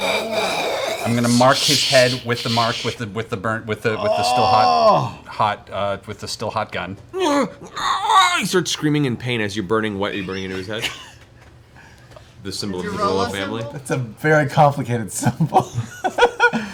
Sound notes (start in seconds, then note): 4.0 noises of pain; 16.2 laughs